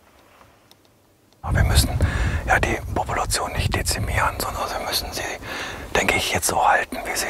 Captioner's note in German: flüstert